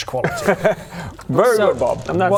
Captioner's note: proud-of-you laugh